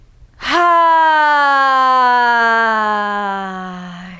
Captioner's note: loud sighing